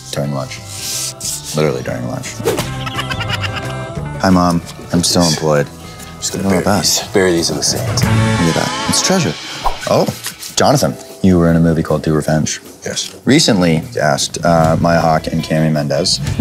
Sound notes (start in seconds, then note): 2.6 high-pitched laugher